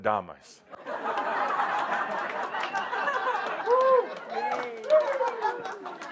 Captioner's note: lots of laughter and some applause